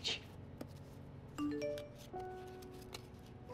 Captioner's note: Cell phone beeps